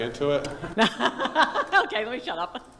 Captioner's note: laughing